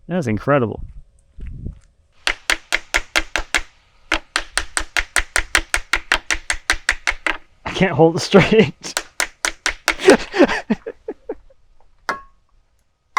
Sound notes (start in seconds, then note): 2.5 hammer thudding; 9.9 chuckling